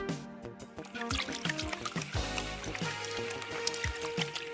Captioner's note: water running